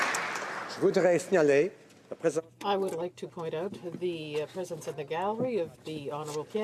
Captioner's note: some Applause